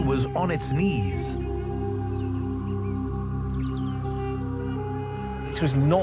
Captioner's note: birds chirp; gentle suspenseful music